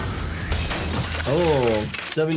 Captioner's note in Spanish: música dramática; vidrio roto